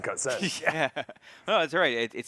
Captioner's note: chuckles